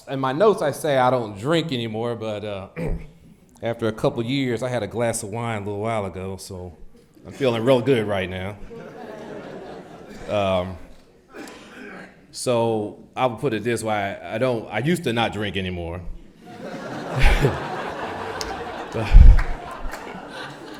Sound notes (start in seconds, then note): 2.7 clears throat; 8.7 audience laughs; 16.4 audience laughs